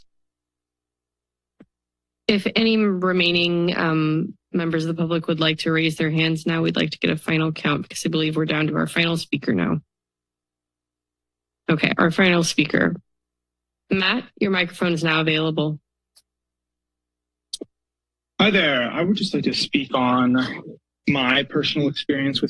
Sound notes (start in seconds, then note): 0.3 silence; 10.7 pause; 16.1 silence